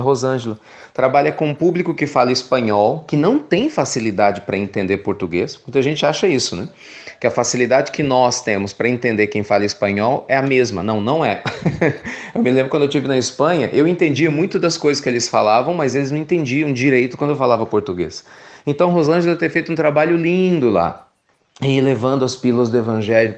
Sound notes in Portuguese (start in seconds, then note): 11.4 Risos